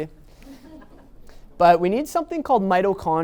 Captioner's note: audience laughing